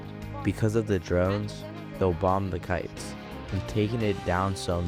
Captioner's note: through translator